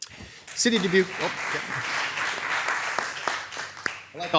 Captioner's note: crowd clapping